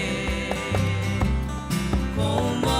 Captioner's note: none